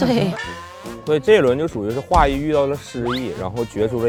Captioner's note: laughs; laughs